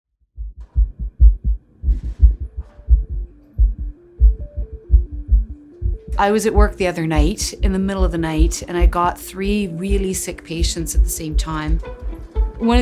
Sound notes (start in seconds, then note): 1.8 heart beating; 3.5 light electronic music